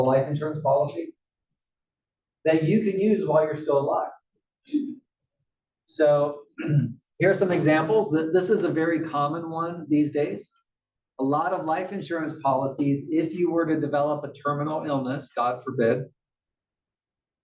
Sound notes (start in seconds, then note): 6.5 cough